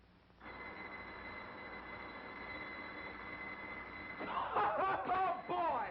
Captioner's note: bells ringing